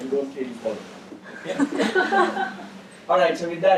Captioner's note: laugh